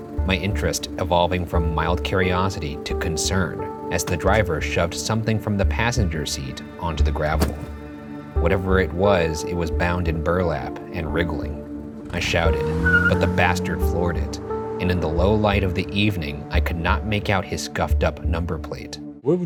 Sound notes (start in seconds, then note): none